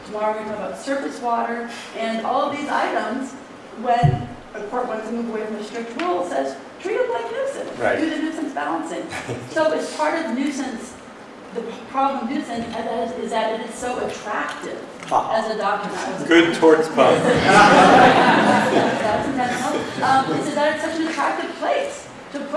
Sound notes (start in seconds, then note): 17.0 laughter